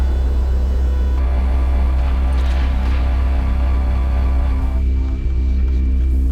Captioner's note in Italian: ronzio di motore elettrico